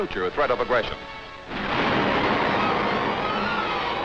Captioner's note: explosion